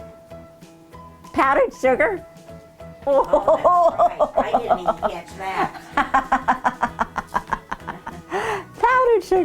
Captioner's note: laughing